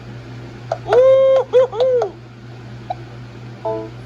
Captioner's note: Martin cheers